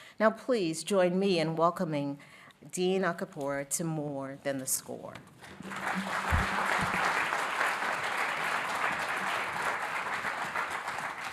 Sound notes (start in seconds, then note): 5.5 audience applauding